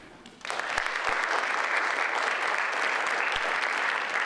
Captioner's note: audience applauds